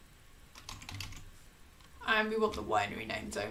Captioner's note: keyboard clicking